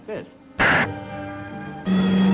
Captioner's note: slaps